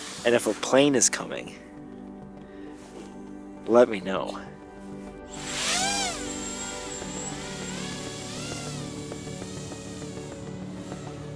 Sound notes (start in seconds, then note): 5.3 drone revs